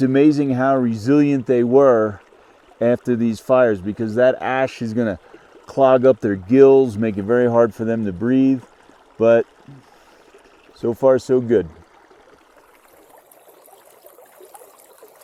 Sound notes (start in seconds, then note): 12.2 water burbling